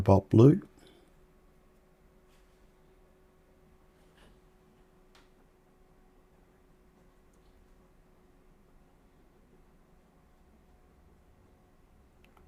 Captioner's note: silence